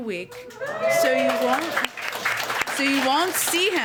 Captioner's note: applause